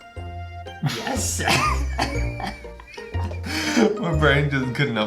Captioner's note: both laughing